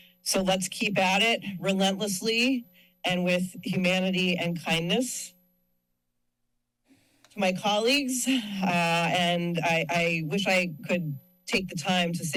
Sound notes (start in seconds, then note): 5.3 pause